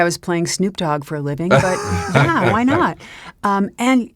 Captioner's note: laughs